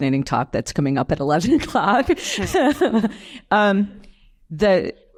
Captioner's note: chuckles